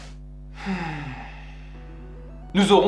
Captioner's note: sigh